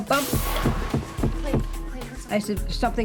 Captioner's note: banging